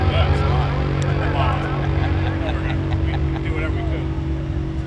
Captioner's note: men laughing